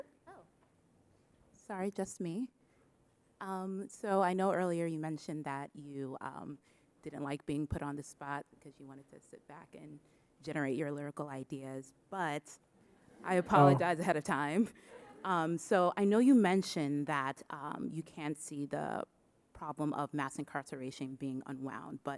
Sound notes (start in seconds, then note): 13.1 audience chuckling